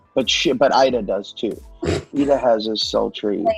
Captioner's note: Kristen laughs